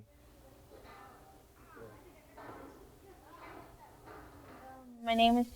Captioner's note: kitchen noises